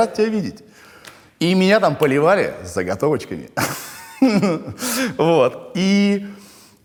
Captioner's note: laughs